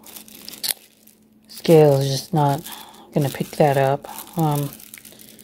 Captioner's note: sigh